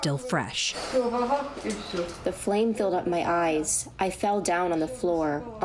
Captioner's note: through translator